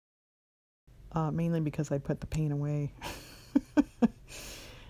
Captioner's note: laughs